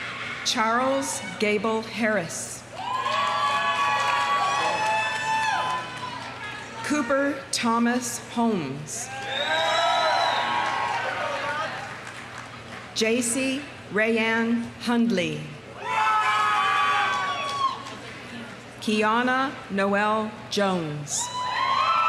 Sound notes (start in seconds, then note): 0.0 audience applauding; 0.0 audience cheering; 2.7 audience cheering; 2.8 audience applauding; 9.0 audience cheering; 9.1 audience applauding; 15.8 audience cheering; 16.3 audience applauding; 21.3 audience cheering; 21.8 audience applauding